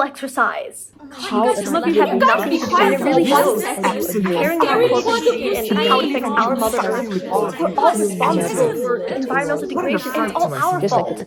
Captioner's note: chaotic arguments ensue